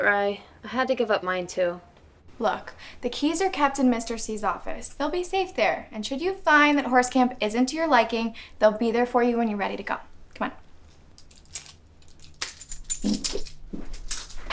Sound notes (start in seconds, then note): 10.6 keys jingling